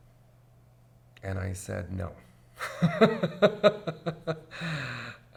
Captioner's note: laughs